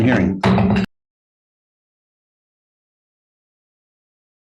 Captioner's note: gavel bangs